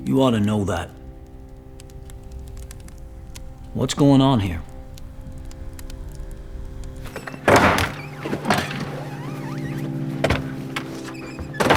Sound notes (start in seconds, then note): 1.6 fire crackling; 4.9 fire crackling; 7.0 screen door slams; 10.2 door thuds